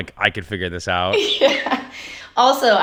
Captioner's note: laughing